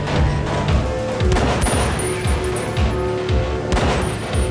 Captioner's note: pistol clicks; pistol firing